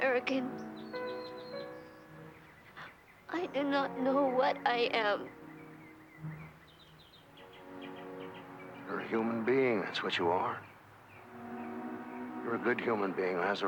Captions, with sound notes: I got a little paint in my eye. Ah, thank you. Boy, it burned to high heaven. [birds chirping]